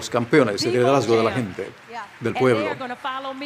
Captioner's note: cheers and applause